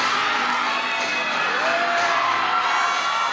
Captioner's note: applause